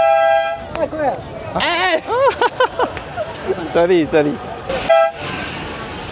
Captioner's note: laugh